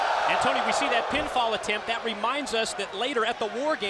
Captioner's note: crowd cheering